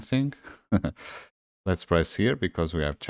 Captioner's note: chuckles